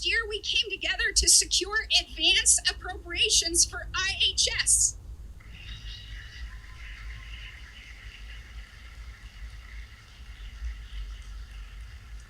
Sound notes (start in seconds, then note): 5.4 applause